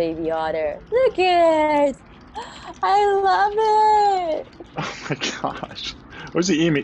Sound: chuckles

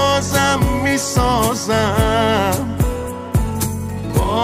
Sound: none

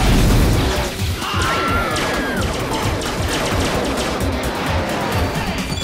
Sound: loud laser zapping; screaming; bell rings

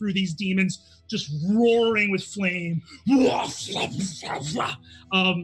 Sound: slashing noises

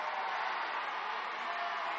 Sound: applause

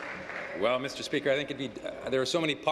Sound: applause

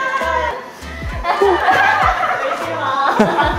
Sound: crying

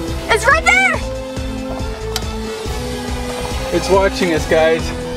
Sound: drone buzzing

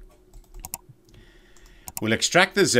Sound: computer mouse click

